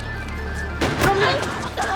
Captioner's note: gasps